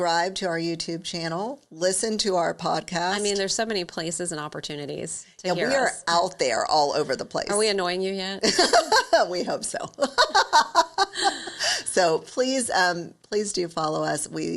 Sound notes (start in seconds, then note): 9.9 laughing; 10.1 laughs